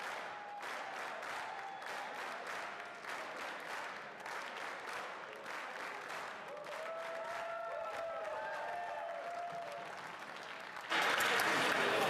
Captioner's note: applause